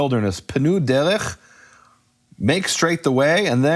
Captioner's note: speaking foreign language